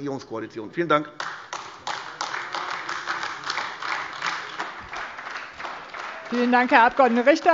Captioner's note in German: Beifall AfD